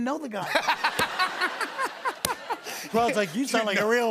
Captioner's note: laughter